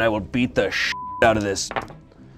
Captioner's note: beep